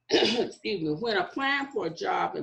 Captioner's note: clears throat